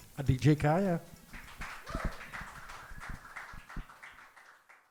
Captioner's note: applause